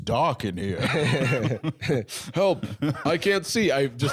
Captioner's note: laughs